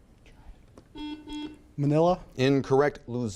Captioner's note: buzzer beeping